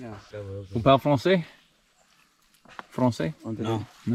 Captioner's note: speaking French